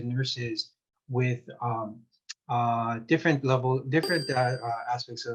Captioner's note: bell chiming